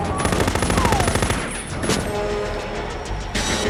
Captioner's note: man screams; machine guns firing; ominous music